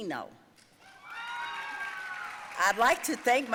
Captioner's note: audience cheering and applauding